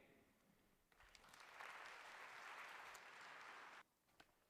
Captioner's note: applause